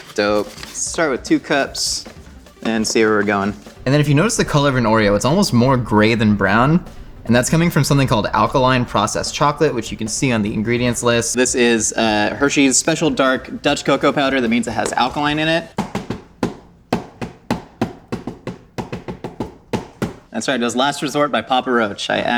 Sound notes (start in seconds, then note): 15.9 makes beat with container